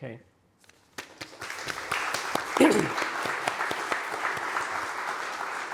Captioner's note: everyone applauding